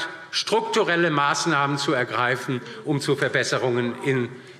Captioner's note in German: none